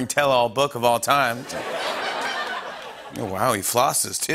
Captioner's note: laughter